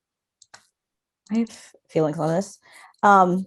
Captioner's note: murmurs